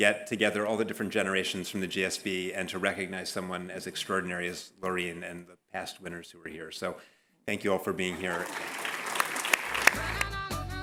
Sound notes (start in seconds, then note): 8.0 applause